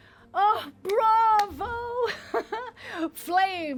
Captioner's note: laughs